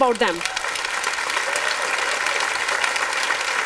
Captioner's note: applause